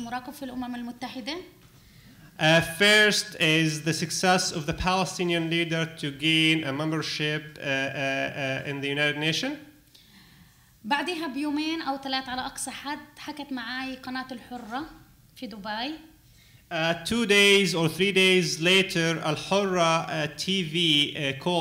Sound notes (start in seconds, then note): 10.7 speaking arabic